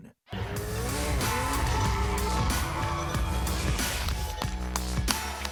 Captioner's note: crowd applauding